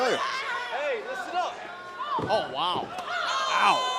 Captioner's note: crowd chatter